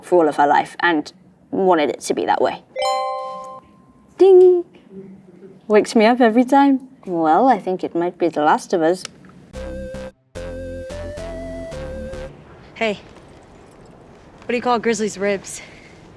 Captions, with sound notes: for all of her life and wanted it to be that way. [tone dings] Ding. Wakes me up every time. Well, I think it might be The Last of Us. [playful 8-bit music] - Hey. What do you call grizzly's ribs?